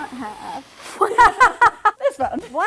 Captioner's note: laughing